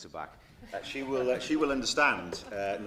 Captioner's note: laughter